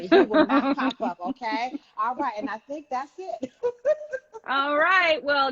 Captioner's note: laughs